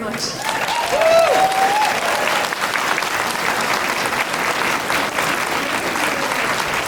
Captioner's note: clapping